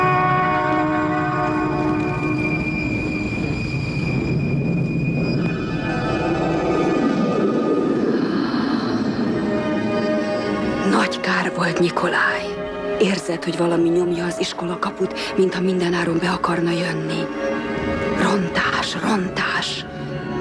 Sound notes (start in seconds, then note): 7.4 louder gusting